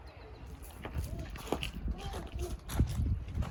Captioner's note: walking on crunchy gravel